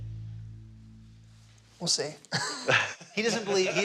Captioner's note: all laugh